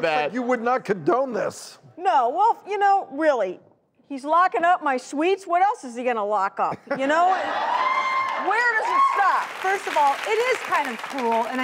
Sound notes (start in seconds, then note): 6.9 laughing; 9.2 applauding and cheering